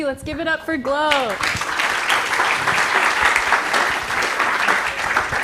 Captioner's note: applause